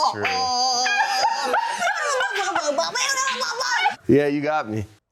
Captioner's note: continues making silly noises